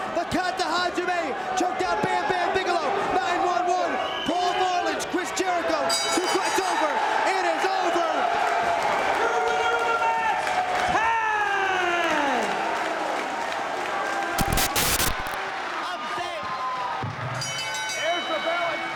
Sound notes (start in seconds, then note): 6.0 bell ringing; 7.2 spectators cheering; 12.5 spectators applauding; 14.4 static crackling; 15.4 spectators cheering and applauding; 17.5 bell ringing